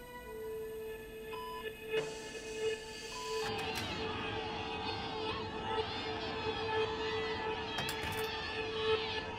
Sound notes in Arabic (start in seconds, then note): 3.5 صراخ بعيد